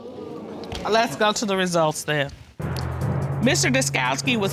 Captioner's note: audience exclaiming